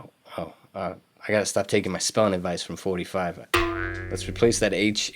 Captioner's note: boing noise